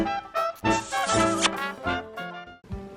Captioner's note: jazz music; kissing noise